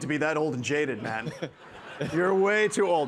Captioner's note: participants laughing